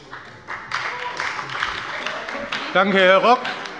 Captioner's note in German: Beifall bei der FDP und bei Abgeordneten der CDU